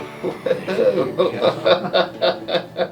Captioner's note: laughs